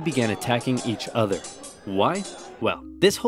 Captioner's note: swords clanging